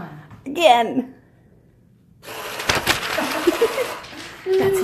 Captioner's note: money gun running